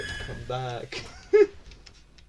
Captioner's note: slight laugh